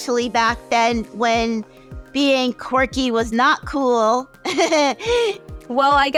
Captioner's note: laughs